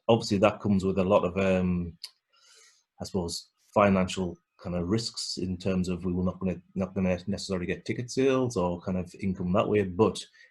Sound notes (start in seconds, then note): none